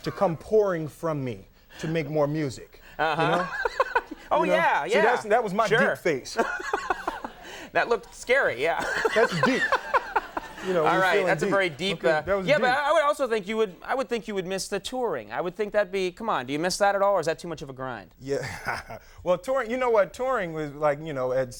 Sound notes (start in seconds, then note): 2.9 laughing; 6.3 laughing; 8.7 Conan laughing; 18.4 laughing